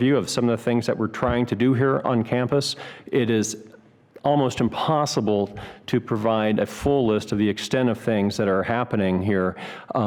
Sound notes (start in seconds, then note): none